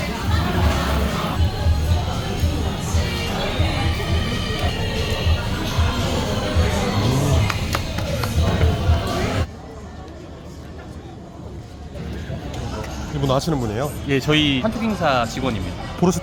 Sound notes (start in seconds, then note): 7.4 applause